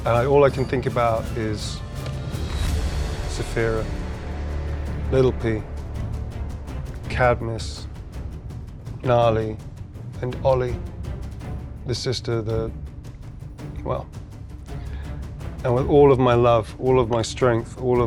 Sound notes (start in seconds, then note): none